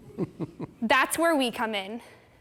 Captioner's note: laughs